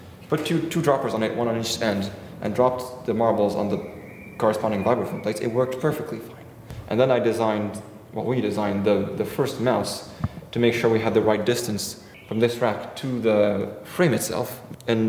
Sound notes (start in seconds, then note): none